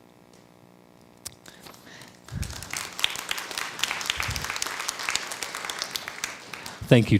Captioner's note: crowd applause